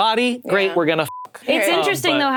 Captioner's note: beep